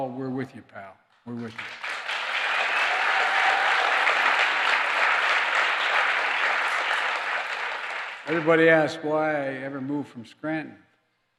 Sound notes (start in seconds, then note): 1.3 applause